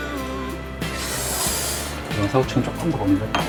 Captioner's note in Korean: 쓰읍